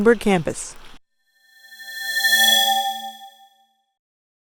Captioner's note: swoosh